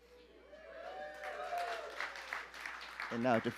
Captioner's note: applause